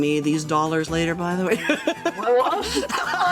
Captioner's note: laughing